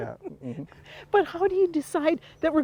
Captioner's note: laughs